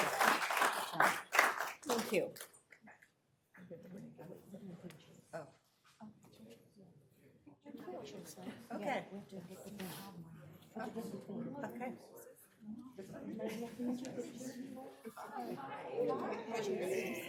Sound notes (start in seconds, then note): 8.5 applause